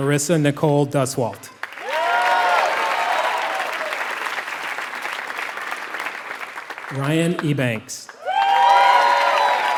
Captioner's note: applause